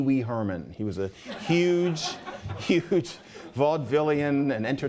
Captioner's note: laughter